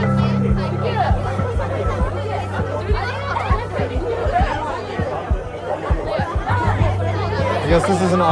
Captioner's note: crowd and band chattering